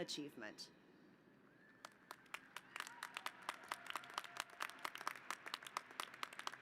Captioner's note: applause